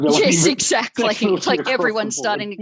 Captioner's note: laughter